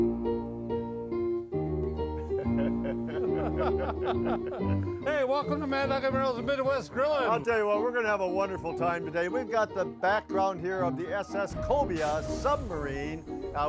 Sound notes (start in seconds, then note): 0.2 piano music; 2.1 men laughing